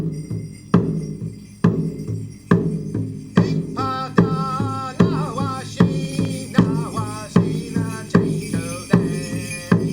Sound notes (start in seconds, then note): 0.2 drumming; 4.2 chanting in native american language